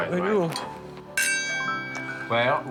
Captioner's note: clink